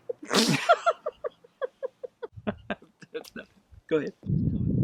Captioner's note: both laughing